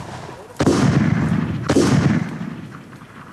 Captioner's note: guns bang